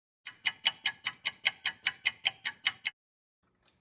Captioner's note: sound of a ticking clock